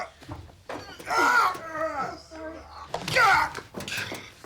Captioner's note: yelps